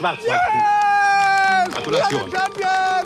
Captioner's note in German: laut